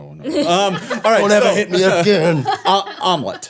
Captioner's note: everyone laughing